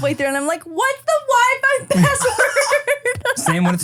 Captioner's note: laughs